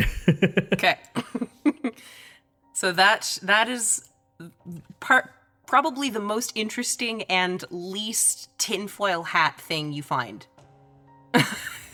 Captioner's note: chuckles